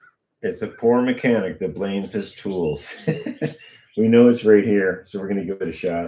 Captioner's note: laughter